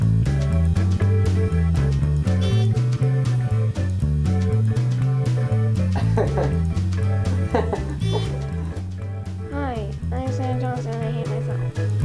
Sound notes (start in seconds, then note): 2.4 elevator beeps; 7.1 laughing